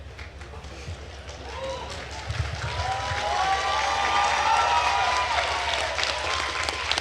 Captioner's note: attendees cheering and applauding